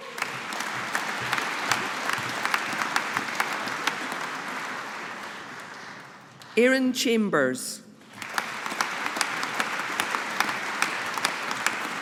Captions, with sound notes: (AUDIENCE APPLAUDING) Aaron Chambers. (AUDIENCE APPLAUDING)